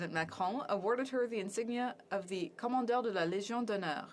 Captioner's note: speaking French